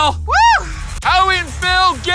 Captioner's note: cheers